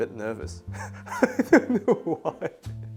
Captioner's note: laughing